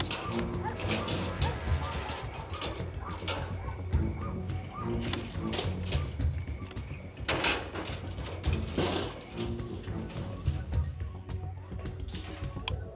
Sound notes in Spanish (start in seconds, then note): 0.0 ruido al abrir